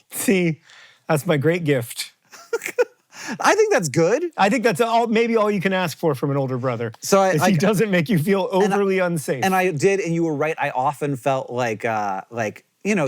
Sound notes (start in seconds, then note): 2.3 giggles